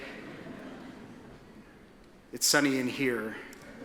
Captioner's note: attendees titter